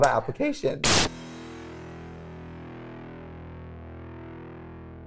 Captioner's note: signal buzzing